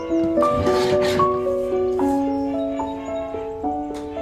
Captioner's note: calming piano music; paper slicing